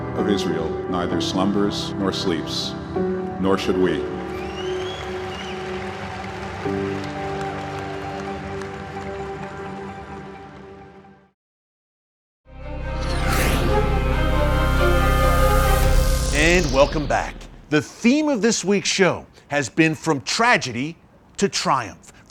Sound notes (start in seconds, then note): 4.3 audience applauding; 13.0 upbeat music